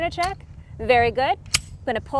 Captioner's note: gun clicking